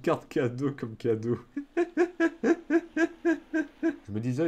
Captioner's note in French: Rires